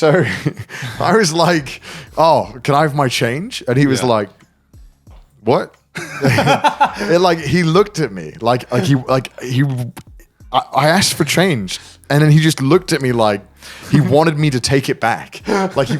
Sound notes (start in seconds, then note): 0.0 chuckles; 6.0 laughing